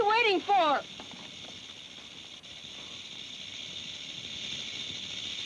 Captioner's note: snake rattles